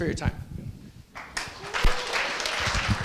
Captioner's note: applause